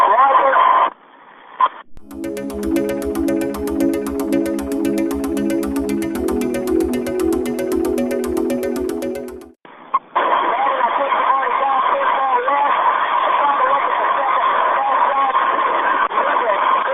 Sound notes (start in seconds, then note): 0.3 upbeat music; 8.3 soldiers speaking over radio calls